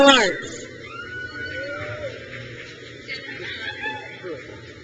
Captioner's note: crowd cheers